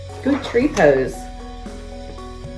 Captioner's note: pages shuffles; uplifting instrumental music